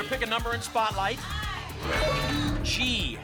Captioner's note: audience shouting letters